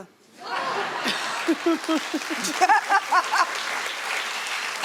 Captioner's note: audience clapping